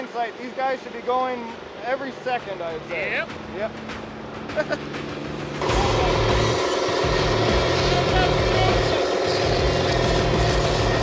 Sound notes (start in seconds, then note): 4.5 laughs; 5.2 upbeat music